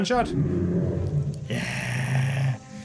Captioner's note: dragon roar